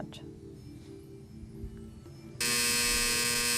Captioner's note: time buzzer